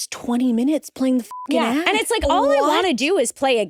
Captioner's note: beep